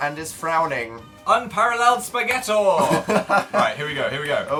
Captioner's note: laughs